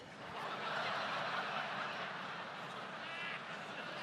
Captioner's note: audience laughs